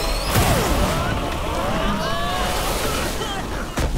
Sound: screaming

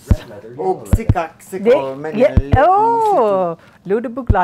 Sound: speaking a foreign language; speaking a foreign language

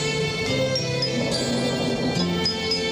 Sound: gorilla growls calmly

